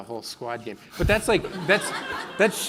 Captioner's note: laughing